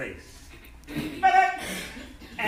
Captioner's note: enthusiastic shouting